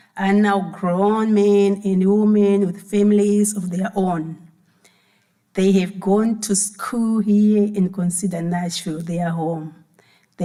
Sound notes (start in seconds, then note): none